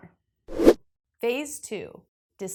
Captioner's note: graphic whooshes